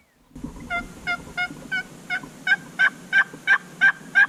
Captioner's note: turkey calling